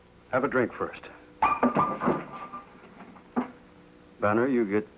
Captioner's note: mug clatters